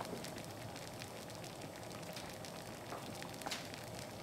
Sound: bubbling sound

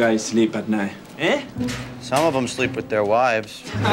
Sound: all Laughing

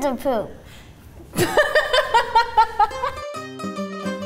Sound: laughs

